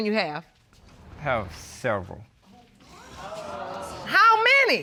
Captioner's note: audience exclaims